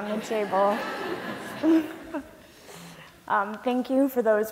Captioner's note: laughter